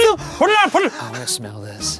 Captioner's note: blowing